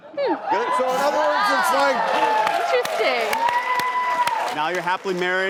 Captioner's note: audience cheers and claps